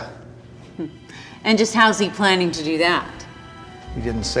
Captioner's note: chuckles